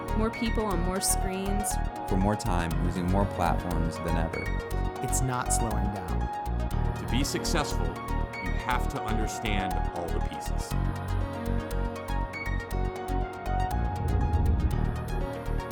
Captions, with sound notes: More people on more screens. - [Voiceover] More times using more platforms than ever. - [Voiceover] It's not slowing down. - [Voiceover] To be successful, you have to understand all the pieces.